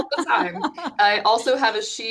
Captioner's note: laughing